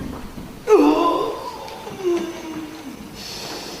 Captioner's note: groaning